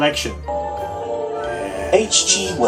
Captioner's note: sounds of space